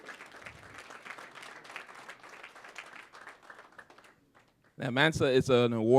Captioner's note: applause